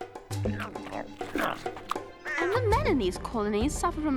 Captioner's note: chewing loudly